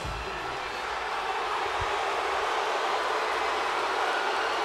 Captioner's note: crowd cheering